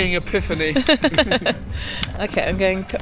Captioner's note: laughs